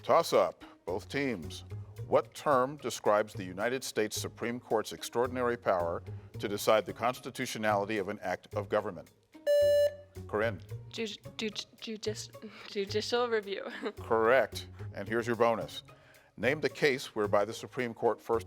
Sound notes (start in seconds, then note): 9.4 buzzer beeps